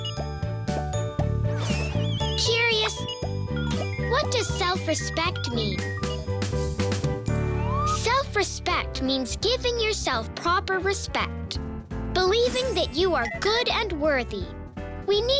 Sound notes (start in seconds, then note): 7.3 beeping; 13.0 tinkling